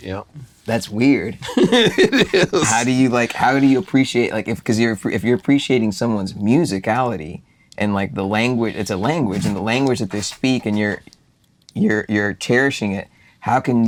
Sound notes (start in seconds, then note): 1.4 both chuckle; 2.8 boo